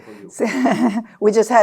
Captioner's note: laughing